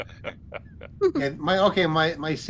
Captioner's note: laughter